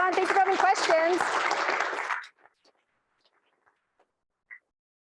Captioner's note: audience applaud